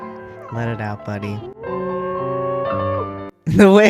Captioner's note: howls